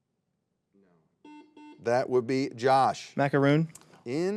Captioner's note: buzzer beeps